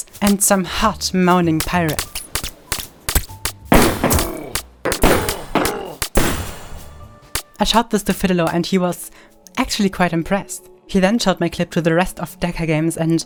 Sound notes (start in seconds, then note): 3.6 guns firing; 4.0 moaning